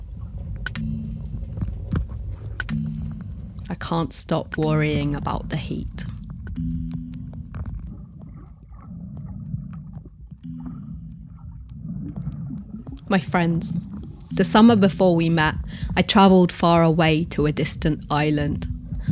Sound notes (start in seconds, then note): 11.4 water gurgles